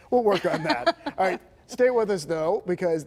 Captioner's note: laughter